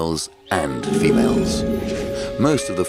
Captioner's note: elephant growling